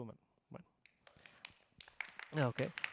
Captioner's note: applause